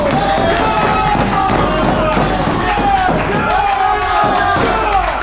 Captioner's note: applause